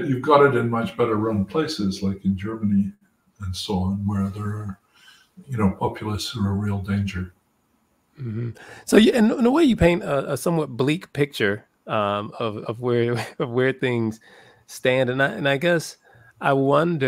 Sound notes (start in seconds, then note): 12.2 laugh